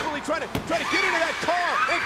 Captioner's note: tires screeching